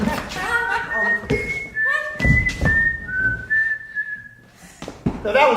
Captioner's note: siren's Whistle